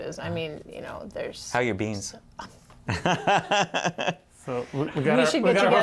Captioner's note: laughter